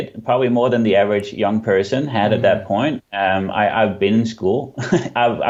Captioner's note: chuckles